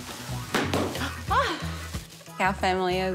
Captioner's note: bang!; chuckles